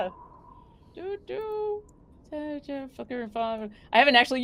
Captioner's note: speaking faintly